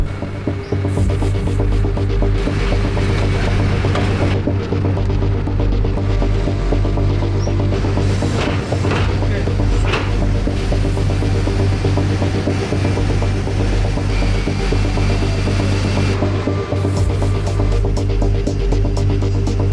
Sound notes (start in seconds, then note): 0.2 dramatic music; 8.5 cages rattling; 10.8 dramatic music; 14.4 electric motors whirring